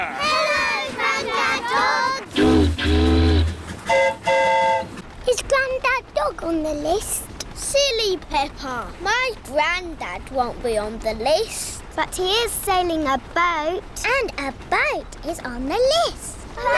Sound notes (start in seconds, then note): 2.3 train horn toots; 3.8 boat horn honks